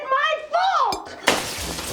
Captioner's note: glass shatters